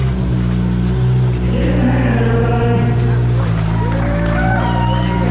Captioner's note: crowd cheering